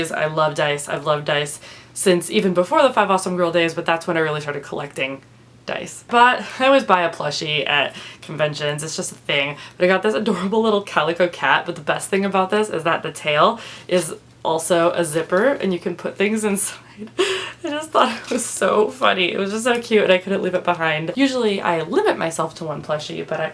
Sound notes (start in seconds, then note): 17.1 laughs